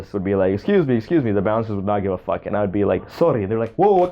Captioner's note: Dutch accent